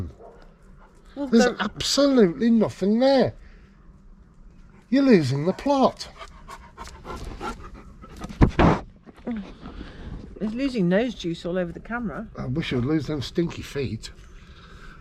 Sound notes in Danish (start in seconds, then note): 6.5 hund puster